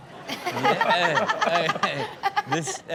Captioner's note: Chanel and audience laugh